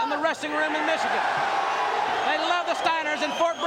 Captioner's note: audience cheers